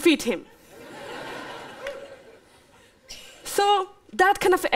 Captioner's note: laughter